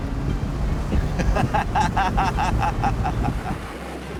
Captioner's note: laughs